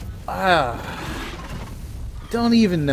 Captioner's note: sighs